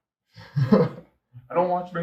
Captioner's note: chuckles out loud